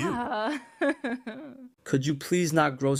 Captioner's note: giggle